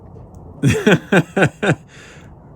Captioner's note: laughing